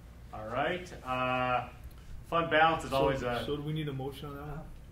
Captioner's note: none